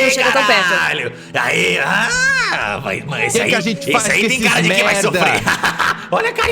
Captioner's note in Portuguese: risada